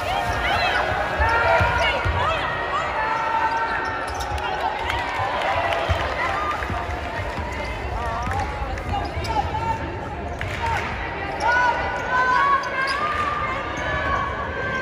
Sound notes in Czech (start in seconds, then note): 0.7 Potlesk